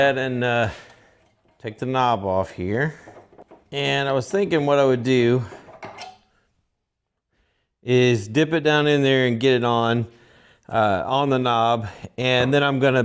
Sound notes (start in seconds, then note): 5.2 metal clanking